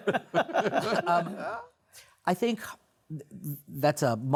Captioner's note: laughter